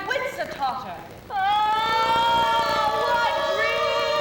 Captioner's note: women moaning